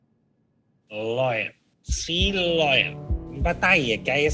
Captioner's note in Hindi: एक्टर अजीत की नकल करते हुए